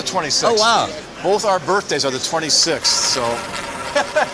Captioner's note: laughs